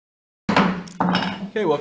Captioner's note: gavel bangs